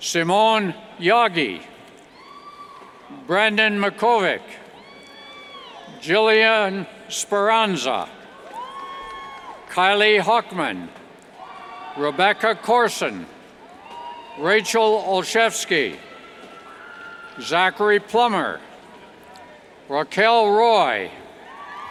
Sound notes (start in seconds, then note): 2.1 cheers; 7.6 cheers; 21.3 cheers